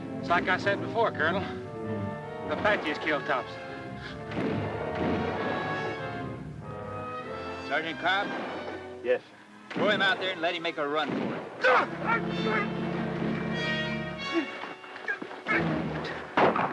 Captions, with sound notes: - It's like I said before, Colonel. The Apaches killed Thompson. - Sergeant Cobb? - Yes, sir. - Throw him out there and let him make a run for it. (Greer grunts)